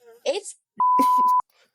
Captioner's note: beep